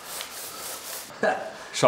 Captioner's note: laughter